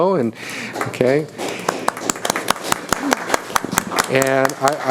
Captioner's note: applauding